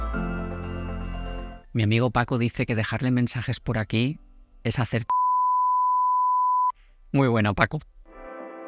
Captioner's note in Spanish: piiiii